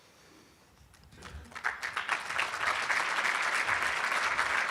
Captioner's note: applauding